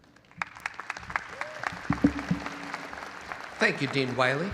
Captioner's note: audience applauding